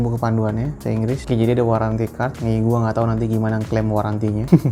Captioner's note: chuckle